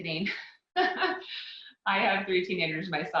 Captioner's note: laughs